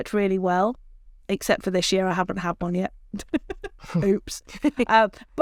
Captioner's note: laughs